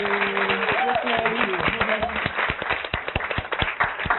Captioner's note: applauding